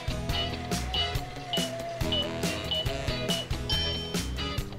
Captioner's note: timer beeps; bell dings